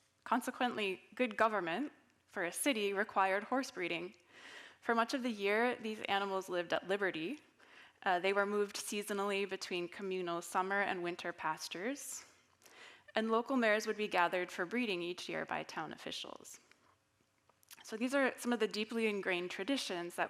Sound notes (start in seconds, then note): none